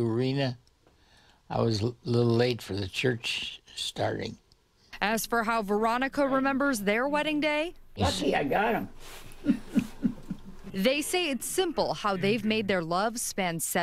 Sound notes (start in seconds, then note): 9.3 laughs